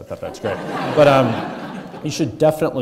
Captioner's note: audience laughing